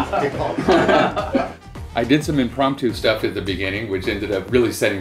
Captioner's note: laughter